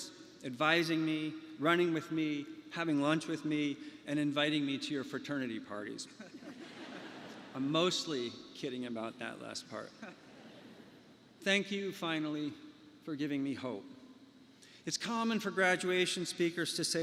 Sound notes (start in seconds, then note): 10.0 laughter